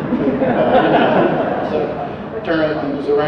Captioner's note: audience laughter